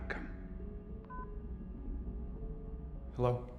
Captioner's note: beeps